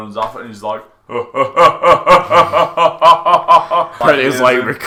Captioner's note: laughs